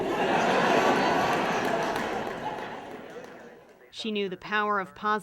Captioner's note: audience laughs